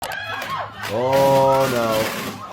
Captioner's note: crowd screaming